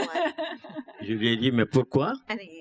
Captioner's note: laughs; speaking french